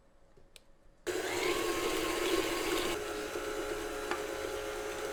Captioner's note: mixer whirring